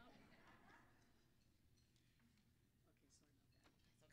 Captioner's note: audience laughing